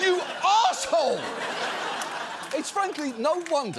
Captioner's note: audience laughs